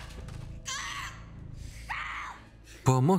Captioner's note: Alejandra screams